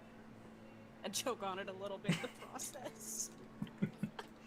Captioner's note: wheezing